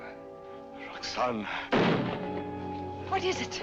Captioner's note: musket fire